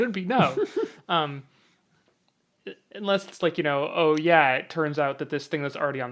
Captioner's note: laughs